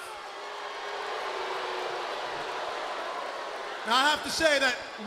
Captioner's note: crowd cheering